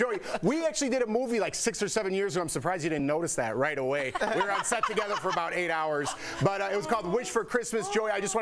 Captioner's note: laughter